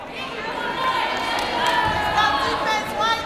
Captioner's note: yelling